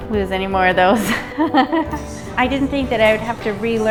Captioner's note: laughs